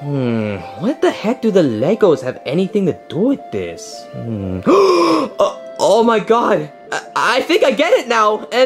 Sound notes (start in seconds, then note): 4.1 gasps